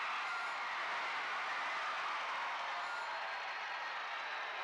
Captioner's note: crowd cheering